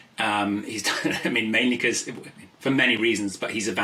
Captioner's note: laughs